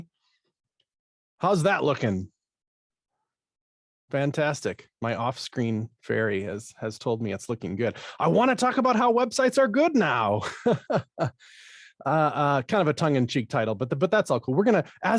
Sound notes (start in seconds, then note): 10.3 laughing